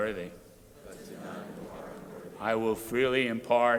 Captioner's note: crowd repeating